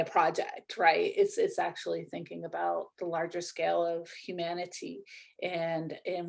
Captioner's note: none